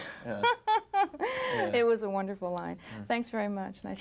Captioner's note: reporter laughing